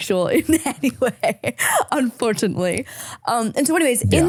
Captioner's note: laughing